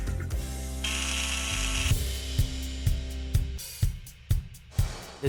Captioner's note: drill whirring